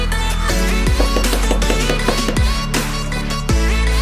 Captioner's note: hammer bangs